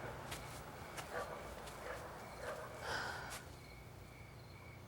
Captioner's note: dog barking